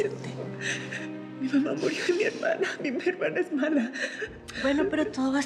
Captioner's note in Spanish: sollozos